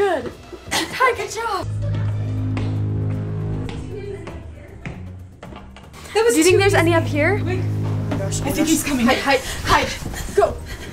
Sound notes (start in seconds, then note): 1.6 ominous music; 1.7 footsteps